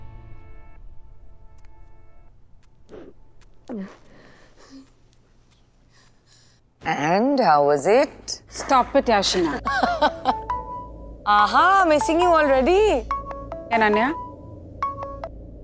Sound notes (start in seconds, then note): 9.4 Sheena giggling; 12.7 phone ringing